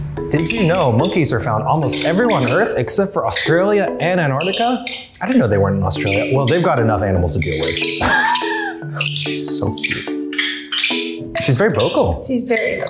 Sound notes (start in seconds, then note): 7.8 laughs; 10.9 loudly squeaking